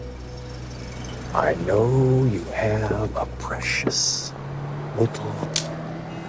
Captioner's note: knife clicking